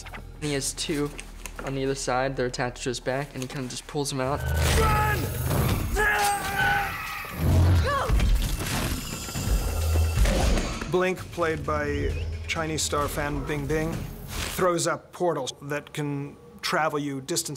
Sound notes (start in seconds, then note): 6.2 grunting